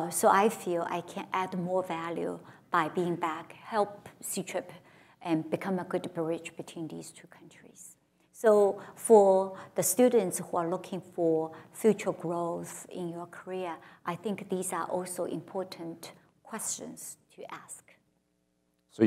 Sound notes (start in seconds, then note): none